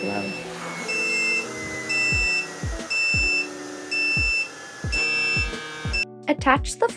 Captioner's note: alarm beeping